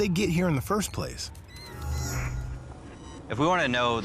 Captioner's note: squeaking